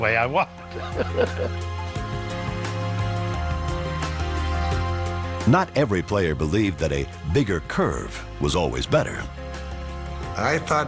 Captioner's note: laughs